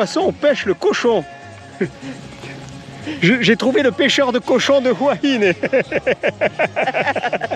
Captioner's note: laughs